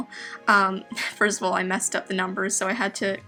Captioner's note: giggles